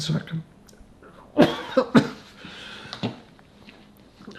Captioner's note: coughing